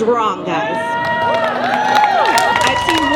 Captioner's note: cheering